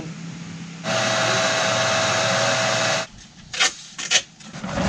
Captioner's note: saw noises